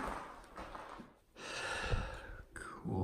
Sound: sigh

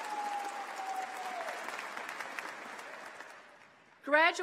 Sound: applause

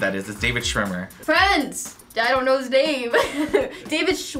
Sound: chuckles

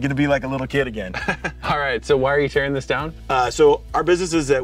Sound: chuckles

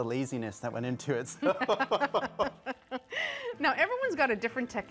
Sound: both laughing

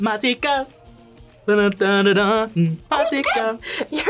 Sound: hums

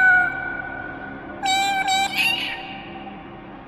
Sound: cosmic meowing

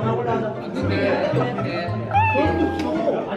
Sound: laughing

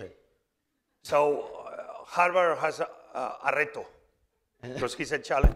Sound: spanish

